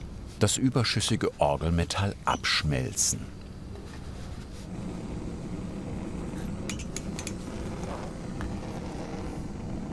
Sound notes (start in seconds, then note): 4.7 evenly rattling whirring sound